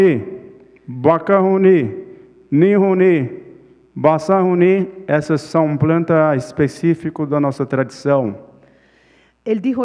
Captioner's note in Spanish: Ponente habla en portugués